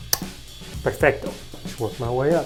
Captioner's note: smacks lips